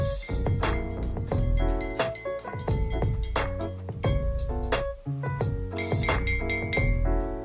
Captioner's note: spoon clinking in the cup sound